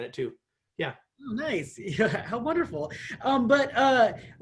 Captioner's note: laughter